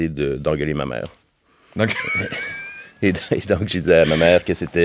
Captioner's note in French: rires